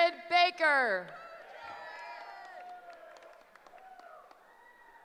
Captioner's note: cheering